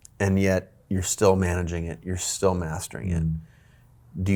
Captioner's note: none